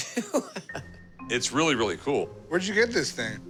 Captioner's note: laughs